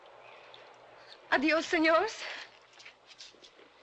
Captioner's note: in spanish